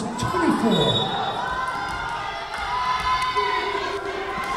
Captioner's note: whistle blowing